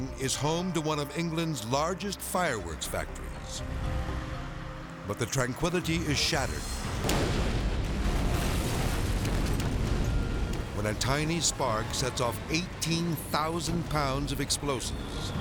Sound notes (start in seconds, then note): 6.5 explosions booming; 15.2 fireworks whistling and popping